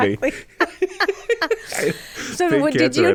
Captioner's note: both laugh